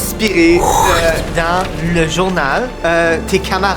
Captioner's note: sound of wind